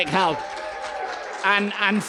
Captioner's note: cheering